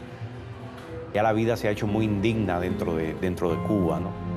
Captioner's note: speaking Spanish